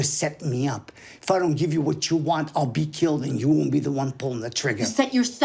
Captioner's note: none